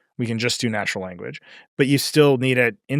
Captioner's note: none